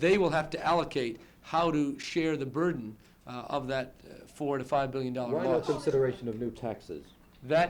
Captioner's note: reporter, interrupting